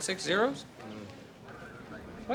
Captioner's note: chuckles